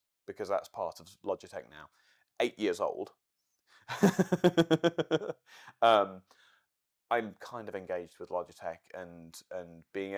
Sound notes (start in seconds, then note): 6.0 laughing